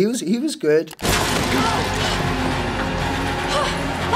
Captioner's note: vase shattering; intense music